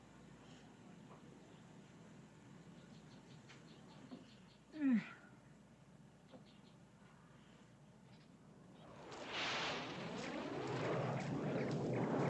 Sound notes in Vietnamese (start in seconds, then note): 4.8 Thở dài; 8.7 Tiếng máy bay phản lực bay qua